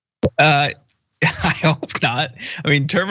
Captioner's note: laugh